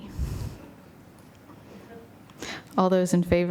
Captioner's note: silence